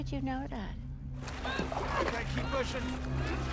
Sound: both grunting

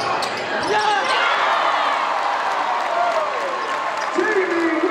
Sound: crowd cheers

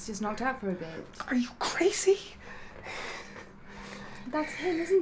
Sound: pants

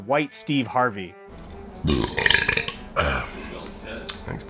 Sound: burps

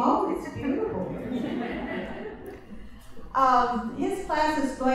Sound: laughter

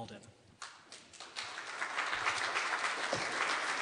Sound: audience clapping

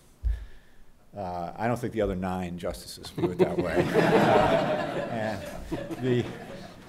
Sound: background laughter

